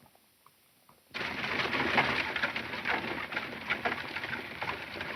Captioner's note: horses galloping